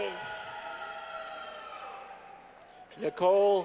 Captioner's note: clapping